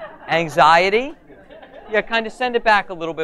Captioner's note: audience laughs